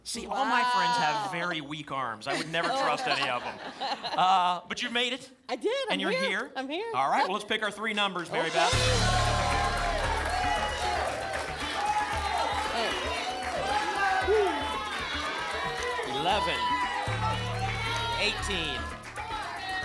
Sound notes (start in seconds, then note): 2.2 laughter; 9.8 applause and cheering; 11.8 audience shouting numbers